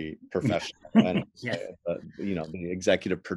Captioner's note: laughs